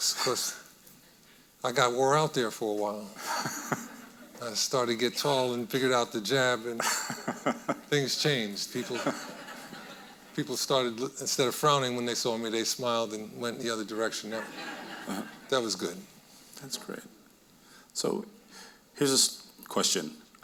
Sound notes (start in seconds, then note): 3.2 chuckling; 6.8 laughing; 8.7 audience laughing; 14.3 audience laughing